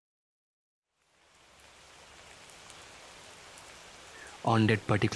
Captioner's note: heavy Rain Outside